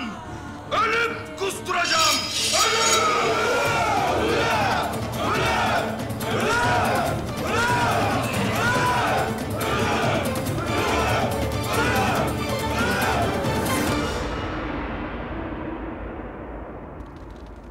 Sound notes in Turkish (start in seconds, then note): 3.3 Hep bir ağızdan; 8.2 Gerilim müziği